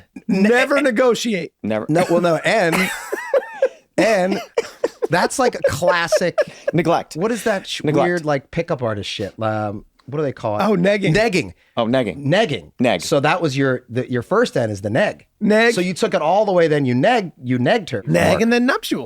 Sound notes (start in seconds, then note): 1.9 group laughs; 4.6 group laughing